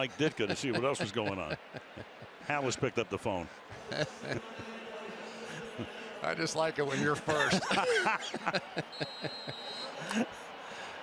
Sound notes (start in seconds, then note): 4.8 pa announcement; 7.0 laughter